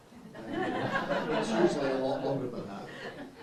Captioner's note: laughter